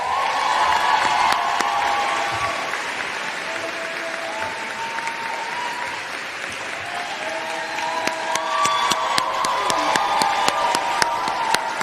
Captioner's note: applause